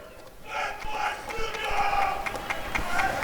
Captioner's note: applause and cheering